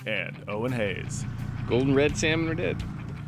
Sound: boat engine idling

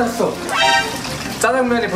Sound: alert

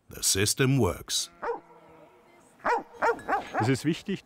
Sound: dog barking; speaking in foreign language

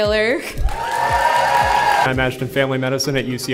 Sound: attendees cheering

